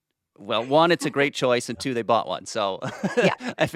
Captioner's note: laughs